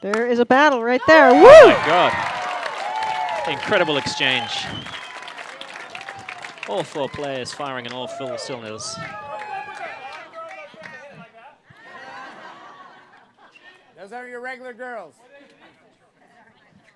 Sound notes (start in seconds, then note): 5.5 cheers; 11.8 laughter